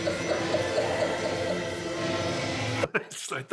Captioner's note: all laughing